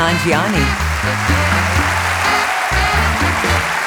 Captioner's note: applause